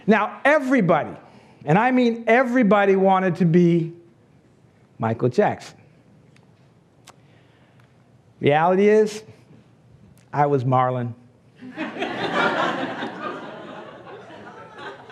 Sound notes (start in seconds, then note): 11.8 laughs